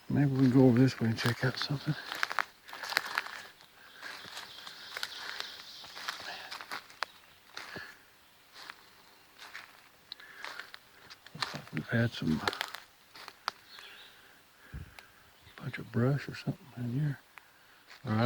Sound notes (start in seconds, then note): 2.6 twigs snapping